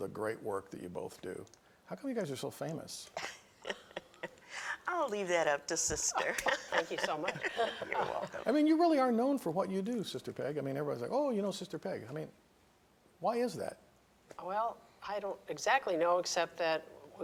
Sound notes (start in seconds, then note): 3.1 chuckles